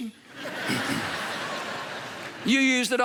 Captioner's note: congregation laughs